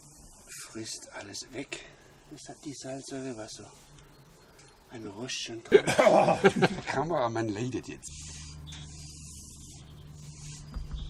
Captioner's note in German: lacht